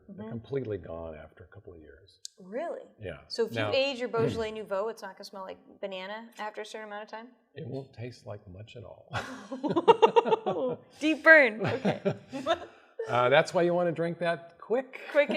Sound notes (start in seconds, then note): 9.1 laughter